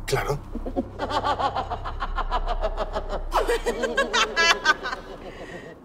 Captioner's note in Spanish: Risa malvada